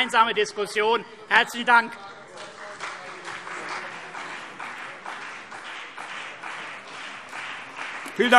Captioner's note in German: Beifall CDU und BÜNDNIS 90/DIE GRÜNEN